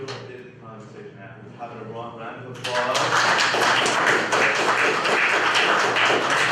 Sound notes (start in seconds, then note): 2.6 applause